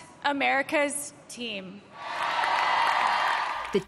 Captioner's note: cheering and applause